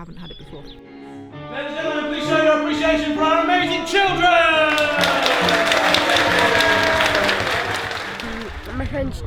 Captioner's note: applause